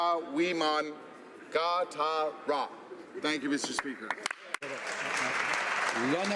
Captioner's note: speaking alternate language